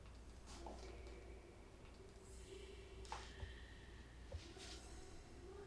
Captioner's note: woman chattering indistinctly